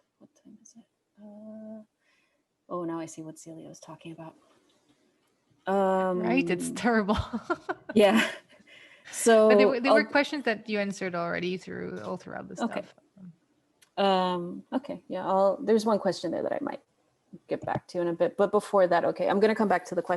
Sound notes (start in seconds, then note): 6.3 laughs